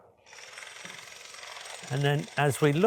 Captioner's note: drill whirring